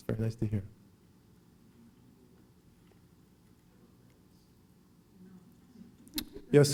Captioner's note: silence